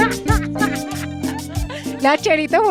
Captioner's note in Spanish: Risas; Risas. Ella se refiere al hombre que acaba de pasar